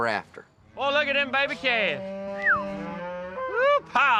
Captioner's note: whistles, mooing